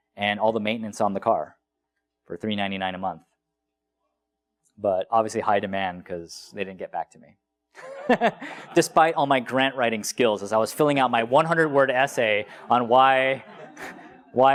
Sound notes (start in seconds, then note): 7.8 laugh; 12.2 laugh